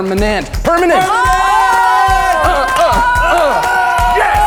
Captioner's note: guests cheering, celebrating